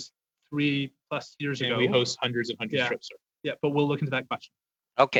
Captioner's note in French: voix de l'interprète